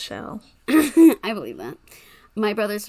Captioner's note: laughs